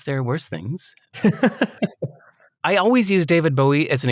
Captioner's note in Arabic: يضحك